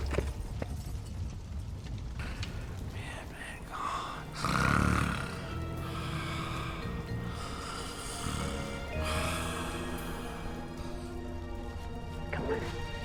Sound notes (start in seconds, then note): 3.0 snoring; 7.2 suspenseful music